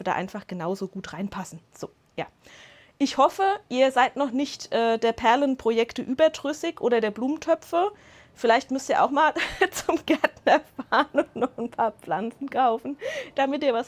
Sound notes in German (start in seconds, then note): 9.4 Lachen